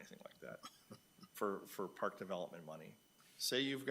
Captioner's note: chuckling